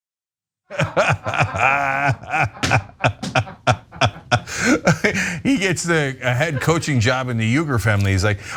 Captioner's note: laugh